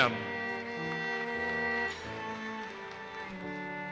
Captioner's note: audience applauses